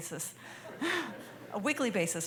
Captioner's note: laughter